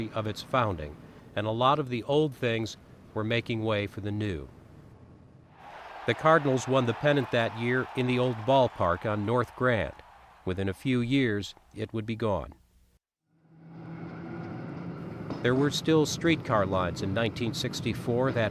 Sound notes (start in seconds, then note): 5.6 crowd cheers; 13.2 engine rumbles